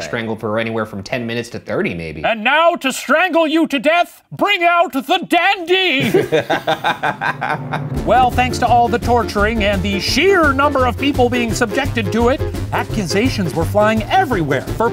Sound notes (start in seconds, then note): 5.9 laughing